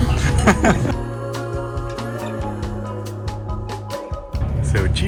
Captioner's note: mellow music continues; laughs